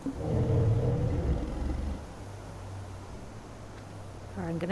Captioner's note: triceratops 'social' roar sound